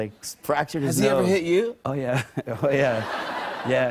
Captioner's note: laughter